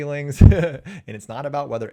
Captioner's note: chuckles